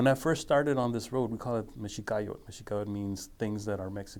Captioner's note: speaking foreign language